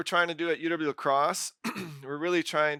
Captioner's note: clears throat